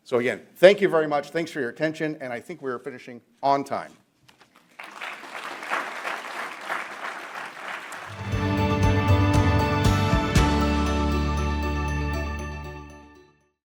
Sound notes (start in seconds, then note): 4.6 audience applauds; 8.1 gentle music; 10.5 gentle music fades